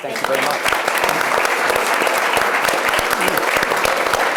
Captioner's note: audience applauds